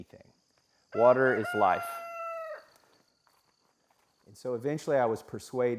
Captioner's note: chicken crowing